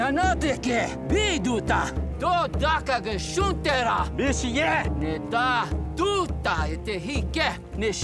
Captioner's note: speaking native language